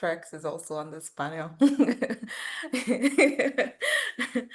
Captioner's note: laughs